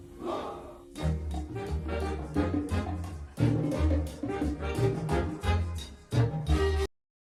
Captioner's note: buoyant music; patrons chatter